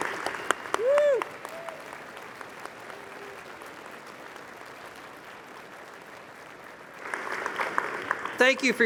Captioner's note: audience applauding